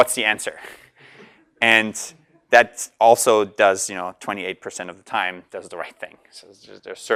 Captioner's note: laugh